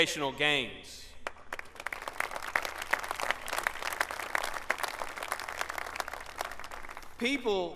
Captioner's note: applause